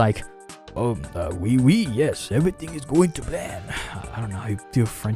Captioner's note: french accent